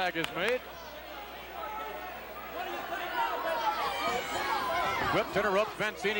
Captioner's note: applause